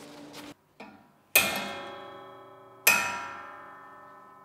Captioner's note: metal reverberation